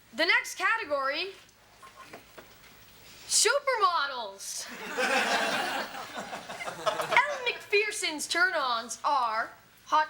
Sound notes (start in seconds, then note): 4.7 audience laughs